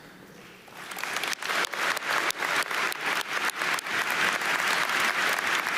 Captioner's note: audience applauding